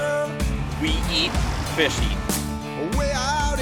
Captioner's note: voiceover